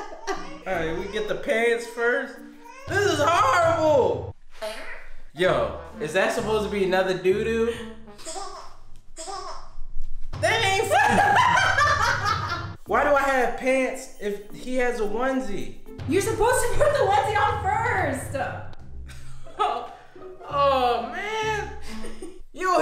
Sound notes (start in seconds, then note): 4.6 child farts; 8.2 child giggles; 10.8 woman laughing; 19.1 laughs